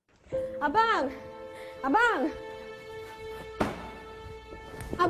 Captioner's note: speaking in foreign language